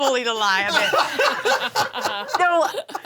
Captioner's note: laughs